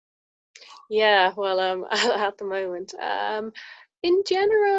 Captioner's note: giggles